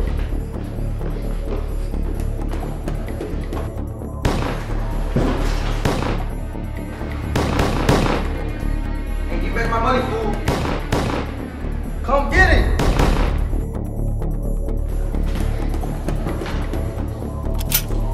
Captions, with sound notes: [Gunshot] [Gunshot] [Gunshots] Hey give back my money fool! [Gunshots] Come get it! [Gunshots]